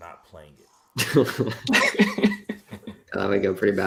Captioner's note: laughter